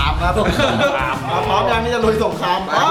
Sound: chuckles

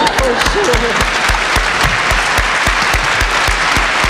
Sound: applause

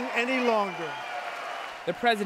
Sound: cheering and applause

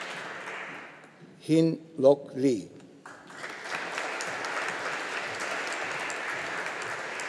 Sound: audience applauding

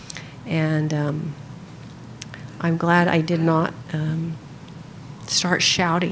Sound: laughing

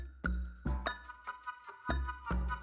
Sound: clacking

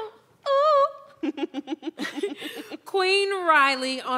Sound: laughter

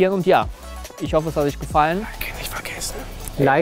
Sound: whispers

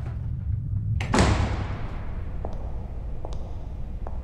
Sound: door closing

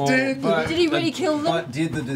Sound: tearfully

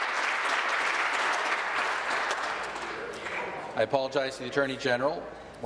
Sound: applause

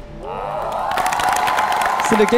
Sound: applause

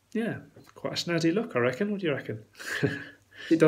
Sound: laughs

